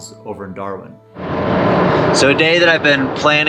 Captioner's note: engine roaring